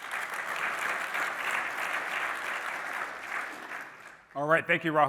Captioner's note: applause